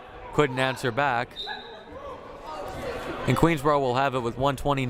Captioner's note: whistle blaring